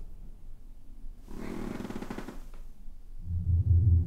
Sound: bed creaking slowly

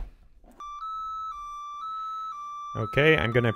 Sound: beeping

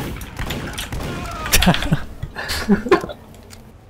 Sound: laughing

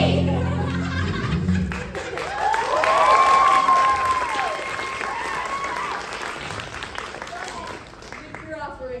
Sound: applause

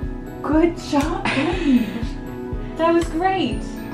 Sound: laughs

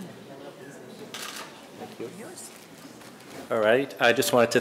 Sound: camera shutter clicks

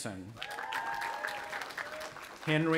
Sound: audience applauding

